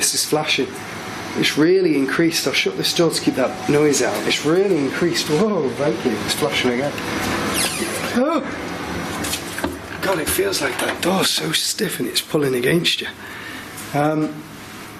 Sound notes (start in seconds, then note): 7.4 creaking; 7.8 surprised yell